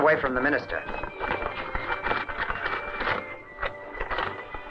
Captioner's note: note rustling